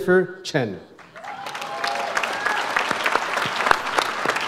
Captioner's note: audience applauds